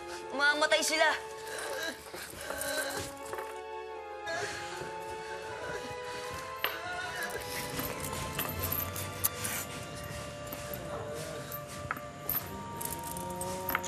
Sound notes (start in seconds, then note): 4.3 Shadow groaning